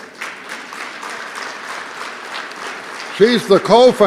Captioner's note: applause